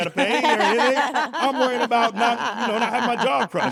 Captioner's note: laugh